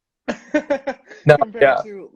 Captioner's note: laughing